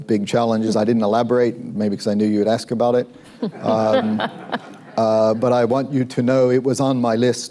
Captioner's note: laughter